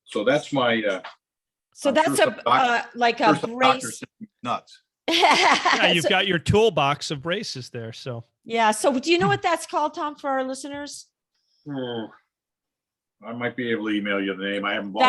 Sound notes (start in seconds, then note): 5.0 laughs